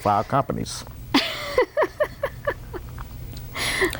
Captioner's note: laughter